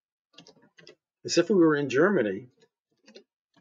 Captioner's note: native German language